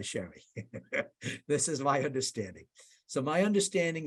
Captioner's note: laughs